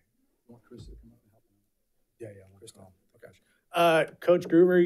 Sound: speaking faintly

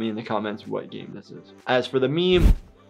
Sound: air whooshes

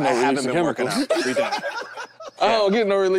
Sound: group laughs

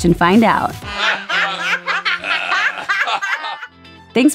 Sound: laughing

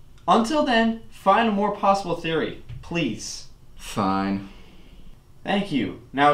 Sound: none

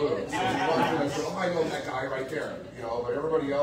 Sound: audience laughs

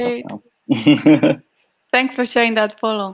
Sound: laughing

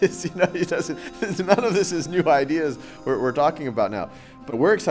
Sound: laugh

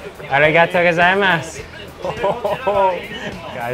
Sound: speaking in foreign language; laughing

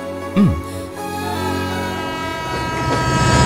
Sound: train horn blares

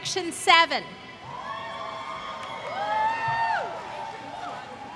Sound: applause

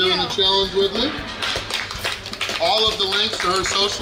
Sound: crowd clapping

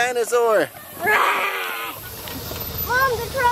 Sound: child roars

